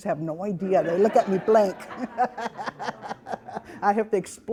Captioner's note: all laughing